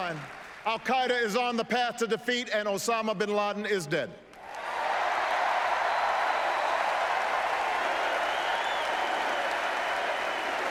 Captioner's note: applause and "four more years" chanting